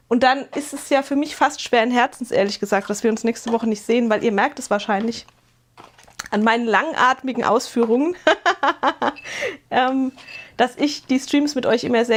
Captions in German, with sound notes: Und dann ist es ja für mich fast schwer ums Herz, ehrlich gesagt, dass wir uns nächste Woche nicht sehen, weil ihr merkt es wahrscheinlich an meinen langatmigen Ausführungen, [gelächter] ähm, dass ich die Streams mit euch immer